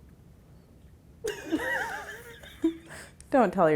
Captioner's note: laughing